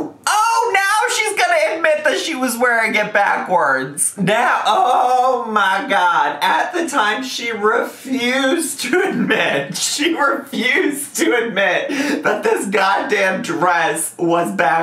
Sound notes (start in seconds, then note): none